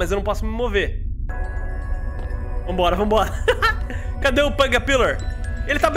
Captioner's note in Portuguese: risos